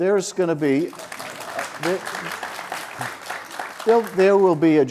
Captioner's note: audience applauds